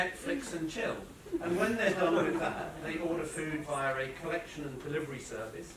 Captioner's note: laughter